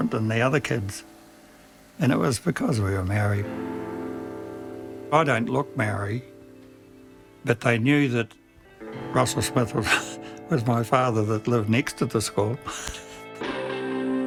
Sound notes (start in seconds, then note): 9.8 laughs